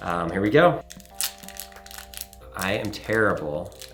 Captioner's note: wrapper crinkling